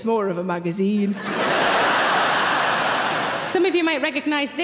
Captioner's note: audience laughing